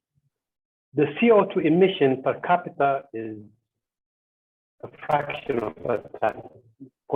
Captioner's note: audio distorts